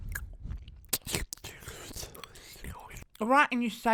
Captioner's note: chewing, slurping sounds